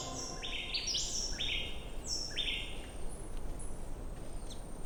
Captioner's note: birds chirping